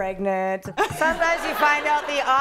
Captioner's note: laughter